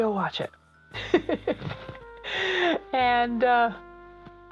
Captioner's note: laughs